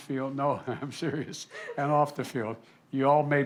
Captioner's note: laughter